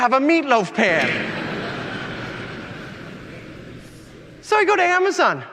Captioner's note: audience laughing